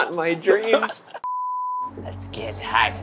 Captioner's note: test beeping